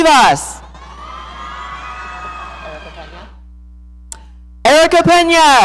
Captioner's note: audience cheering